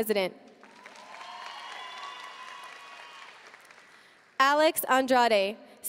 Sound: audience cheering and applauding

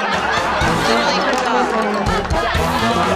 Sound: laughter

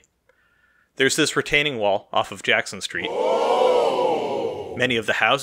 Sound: ooooh!

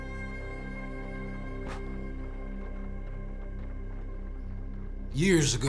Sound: blows out match

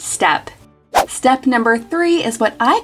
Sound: swishing

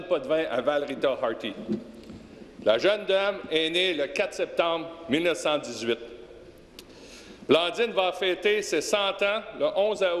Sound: speaking French

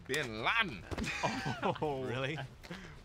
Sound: laughing

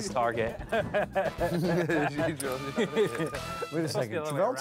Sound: laughing

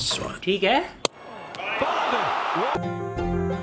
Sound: audience cheering

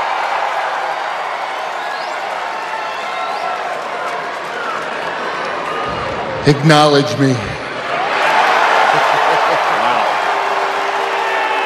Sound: cheers and applause

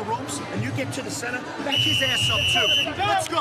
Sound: whistle blows

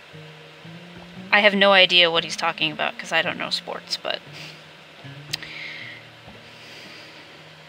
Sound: sigh

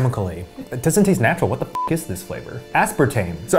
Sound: beep

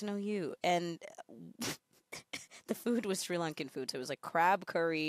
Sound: laughs

